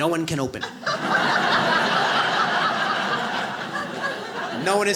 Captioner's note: audience laughs